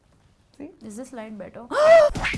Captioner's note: gasps